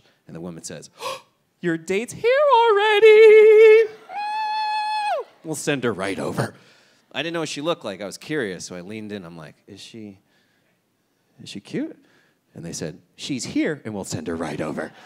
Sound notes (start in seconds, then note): 1.0 gasps; 4.2 squeals